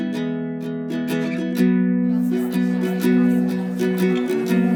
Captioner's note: indistinct conversations